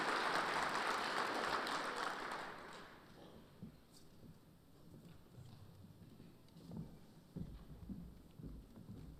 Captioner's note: applause